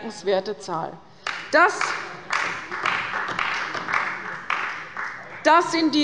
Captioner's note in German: Beifall bei Abgeordneten der CDU